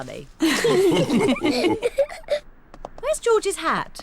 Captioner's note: all giggle